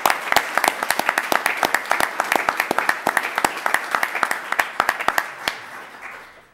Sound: applause

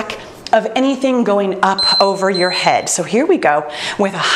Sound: timer beeps

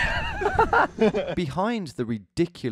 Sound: both laugh

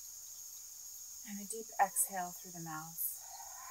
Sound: exhales

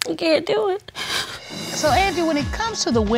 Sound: sobs

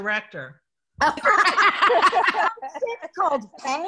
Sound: laughs

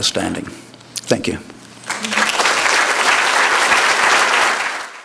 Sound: applause

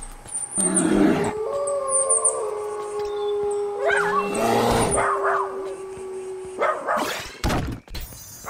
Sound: various animal noises

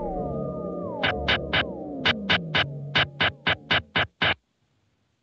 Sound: muted blasting

